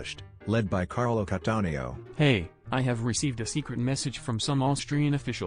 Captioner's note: two Italian people talking in Milan